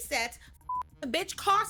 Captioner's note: beep